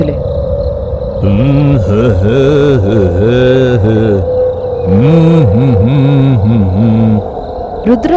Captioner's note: humming